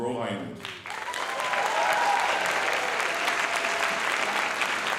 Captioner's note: cheers and applause